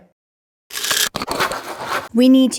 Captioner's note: pills rattling